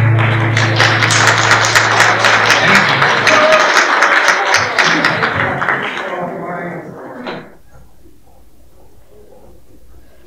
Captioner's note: applause